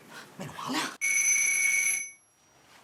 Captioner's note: doorbell rings